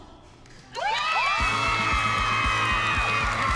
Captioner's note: cheering